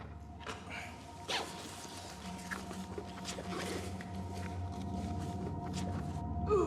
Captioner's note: ominous music continues; bag rustling